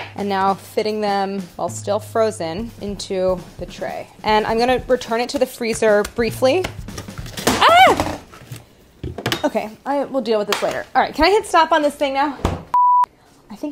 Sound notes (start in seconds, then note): 6.8 objects loudly clattering; 7.1 softly exclaims; 12.7 softly beeps